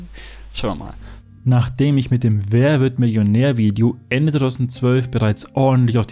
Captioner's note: voiceover